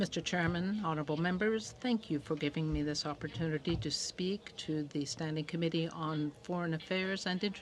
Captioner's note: speaking French